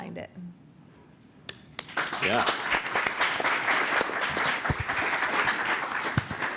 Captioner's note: applause